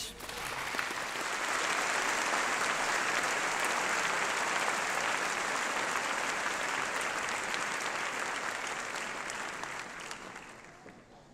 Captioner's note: applause